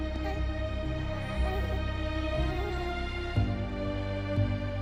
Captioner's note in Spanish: Gorjeos del bebé